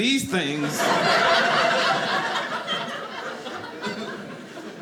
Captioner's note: audience laughing